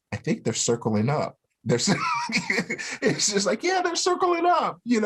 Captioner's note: laughter